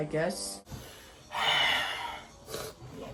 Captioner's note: sighs